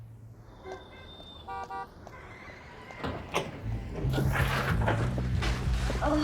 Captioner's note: horn beeping and traffic whooshing